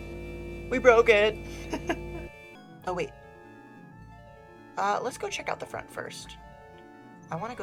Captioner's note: laughs